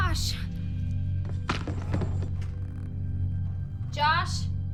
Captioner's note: clattering in other room